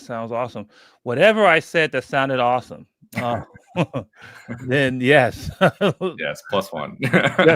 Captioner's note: laughs; laughs